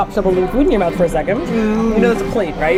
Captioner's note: whiny